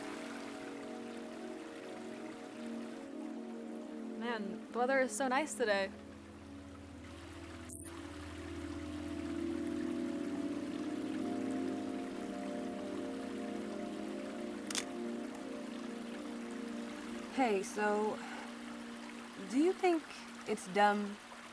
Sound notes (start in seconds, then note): 0.1 intense music; 7.9 camera clicks; 9.5 intense music; 14.7 camera clicks